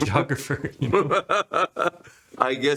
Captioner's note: laughter